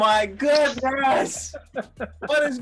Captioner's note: laughs